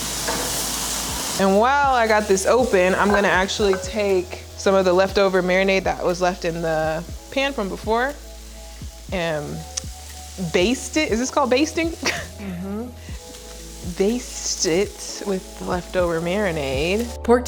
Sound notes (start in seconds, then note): 12.0 laughs